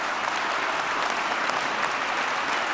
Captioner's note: applause